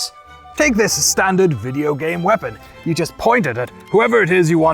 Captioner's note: knightly voice